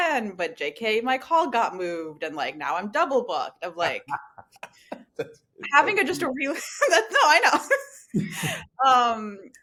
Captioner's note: laughter